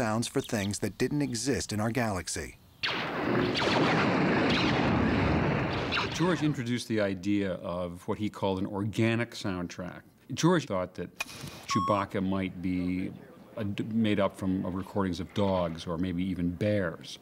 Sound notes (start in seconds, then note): 2.8 laser Blast Sounds